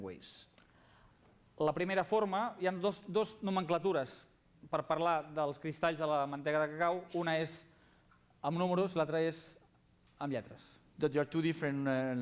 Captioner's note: non-english speech